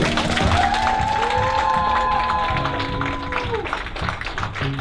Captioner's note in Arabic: الهتاف والتصفيق